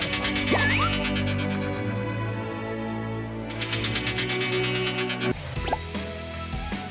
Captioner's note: eating